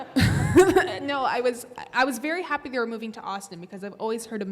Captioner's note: laughs; audience laughing